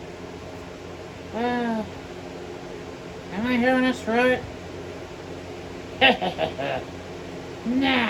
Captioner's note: evil chuckle